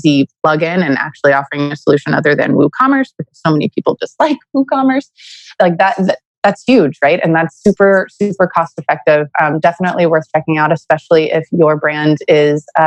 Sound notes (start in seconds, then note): 4.8 laughs